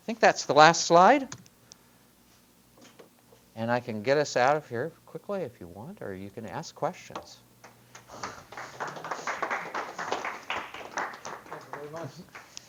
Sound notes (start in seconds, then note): 7.9 applause